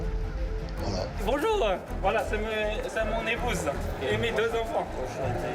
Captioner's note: man speaking foreign language